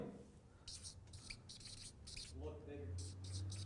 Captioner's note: marker scratching on paper